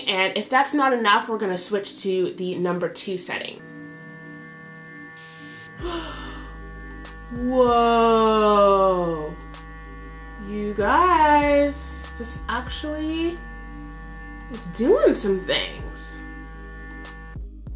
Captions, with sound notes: And if that's not enough we're going to switch to the number two setting. (brush buzzing) (gasps) Whoa. You guys, this actually is doing some things.